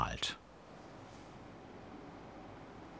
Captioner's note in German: Rauschen im Hintergrund